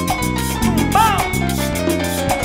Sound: laugh

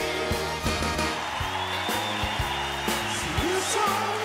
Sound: cheerful music; cheering

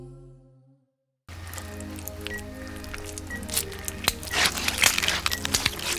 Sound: intestines squelching

